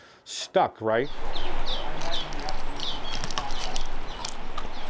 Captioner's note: birds chirping